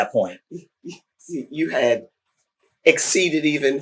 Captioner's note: laughs